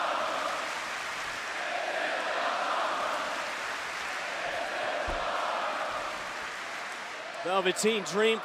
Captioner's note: crowd cheering